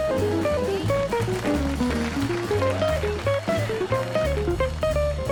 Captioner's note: crowd applauding